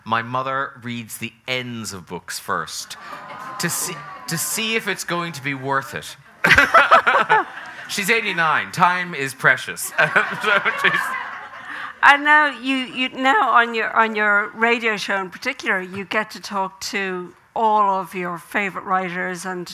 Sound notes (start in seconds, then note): 2.8 audience exclaiming; 6.4 both laughing; 9.8 audience laughing